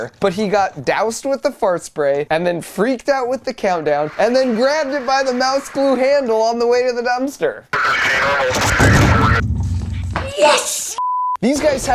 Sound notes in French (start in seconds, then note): 7.7 radio police